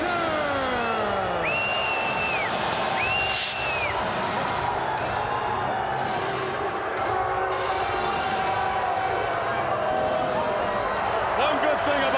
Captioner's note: crowd chatter